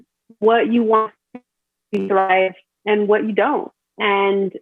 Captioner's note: audio distorts